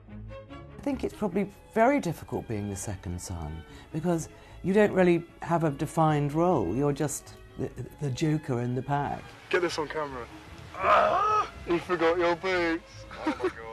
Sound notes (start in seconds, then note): 10.7 William yells; 13.0 laughs